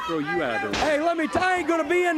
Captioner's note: crowd chatter